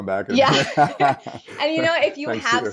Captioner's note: laughing